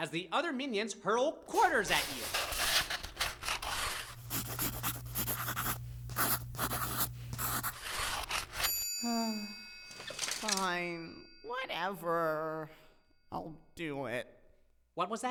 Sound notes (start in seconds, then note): 4.2 Paco scribbling